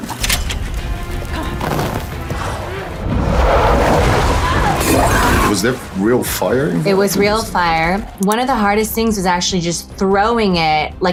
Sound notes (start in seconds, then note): 0.2 dramatic music; 0.5 fire sizzling; 2.0 water whooshing; 4.4 exclaiming; 4.8 glass shattering